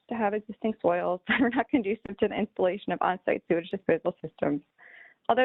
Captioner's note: laughter